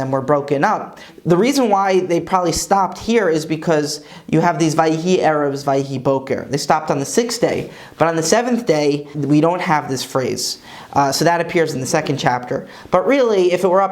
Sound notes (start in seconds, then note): 4.7 Hebrew